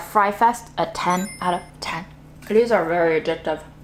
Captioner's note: chimes tinkling